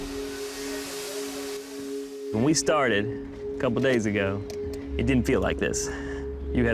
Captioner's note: vacuum whirring